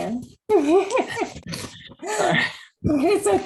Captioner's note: laughter